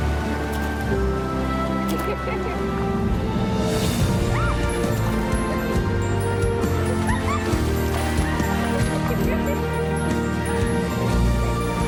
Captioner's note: giggling, water splashing